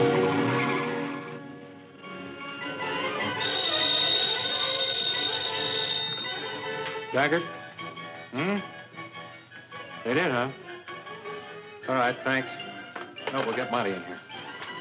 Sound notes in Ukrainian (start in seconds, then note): 3.1 визг шин; 6.1 дзвінок